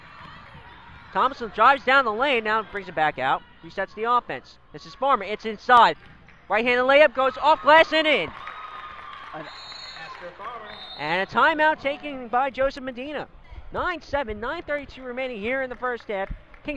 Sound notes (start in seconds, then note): 7.2 crowd cheers; 9.4 whistle blows